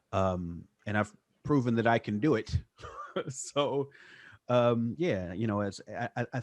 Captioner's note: laughs